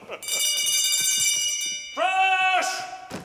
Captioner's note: Marquis laughs; bell ringing